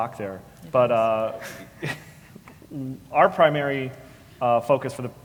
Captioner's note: laugh